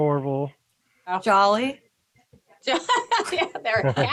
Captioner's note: laughs